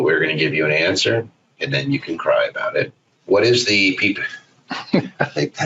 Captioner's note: laughs